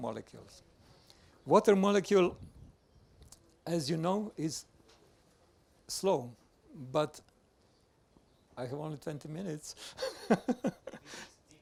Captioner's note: laughs